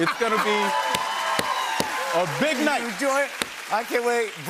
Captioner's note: cheers and applause